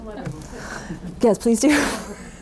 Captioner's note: audience laughs